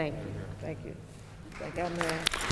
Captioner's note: applause